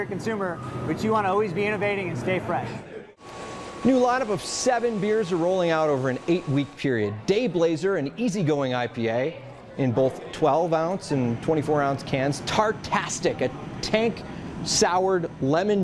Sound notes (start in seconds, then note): none